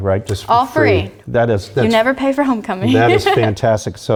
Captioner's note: laugh